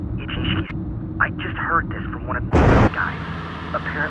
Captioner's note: convenient thunder